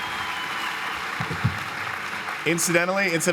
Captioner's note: cheering and applause